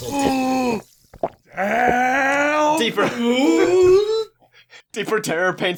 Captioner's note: noises of shock